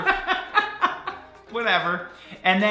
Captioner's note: laughing